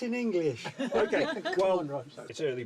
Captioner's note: all laughing